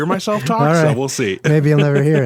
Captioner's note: laughing